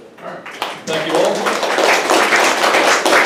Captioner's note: audience applauds